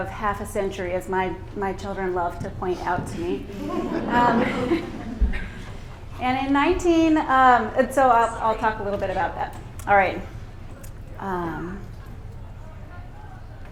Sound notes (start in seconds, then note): 3.5 laughter